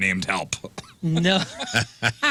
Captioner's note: laughing